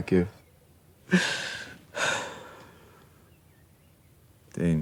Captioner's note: Dayne crying